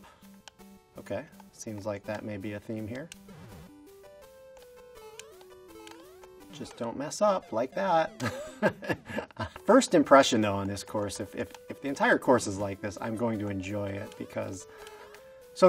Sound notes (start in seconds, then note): 3.6 gaming music; 8.2 laughs